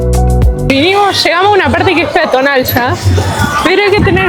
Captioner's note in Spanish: risas